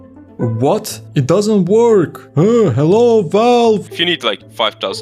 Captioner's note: Discord notification